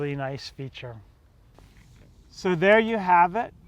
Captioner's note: air whooshing